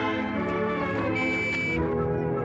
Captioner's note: horn honking